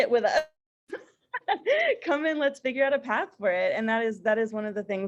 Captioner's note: laughter